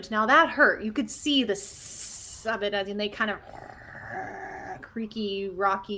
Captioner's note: growls; hisses